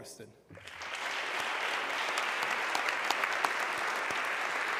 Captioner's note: audience clapping